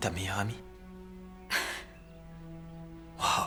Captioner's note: chuckles